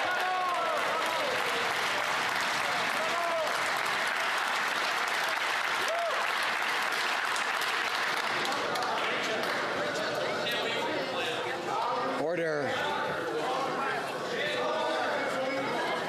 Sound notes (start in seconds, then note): 7.1 some Applause